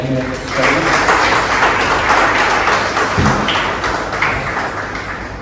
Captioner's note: clapping